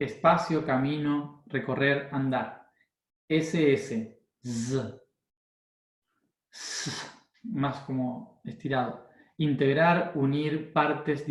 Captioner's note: sssss, more elongated